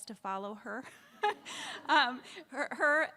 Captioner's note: all laughs